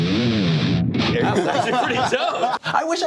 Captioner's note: laughs